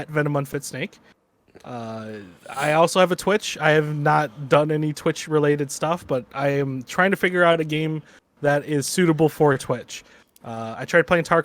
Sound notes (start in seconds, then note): none